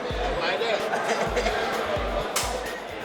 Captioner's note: inmates laughing